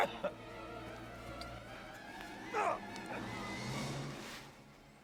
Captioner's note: man grunts; dramatic music